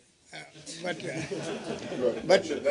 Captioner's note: laughter